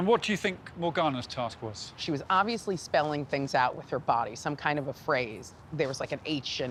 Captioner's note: none